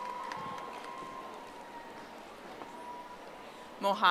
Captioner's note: audience applauding